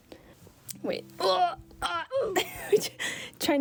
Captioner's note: groaning with effort